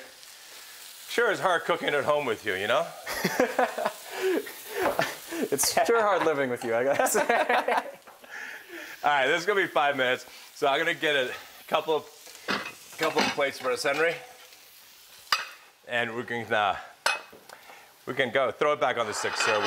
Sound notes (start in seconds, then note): 3.1 laughing; 6.8 both laughing